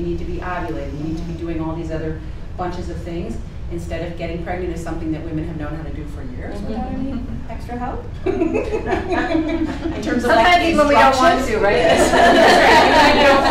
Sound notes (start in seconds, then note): 8.2 participants giggling